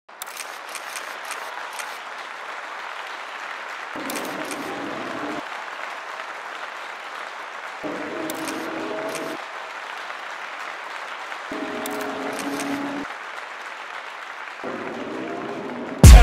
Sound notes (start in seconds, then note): 0.2 camera shutters snapping; 0.6 applause